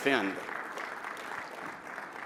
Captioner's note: applause